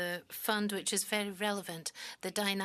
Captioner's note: speaking French